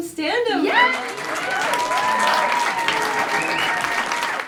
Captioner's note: applause